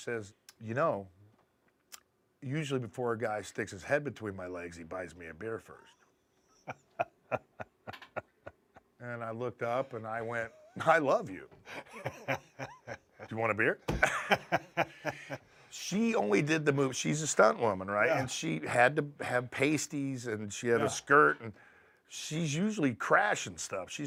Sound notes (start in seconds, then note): 6.4 laugh; 11.6 laugh